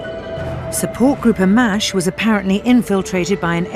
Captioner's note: voiceover